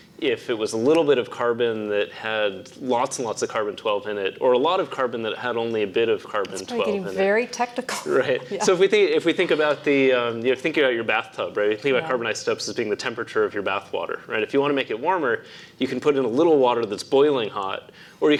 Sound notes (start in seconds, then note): 8.0 laugh